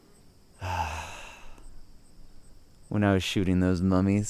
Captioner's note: sighing